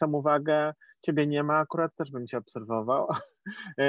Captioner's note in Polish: śmiech